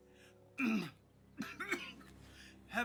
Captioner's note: Benny coughing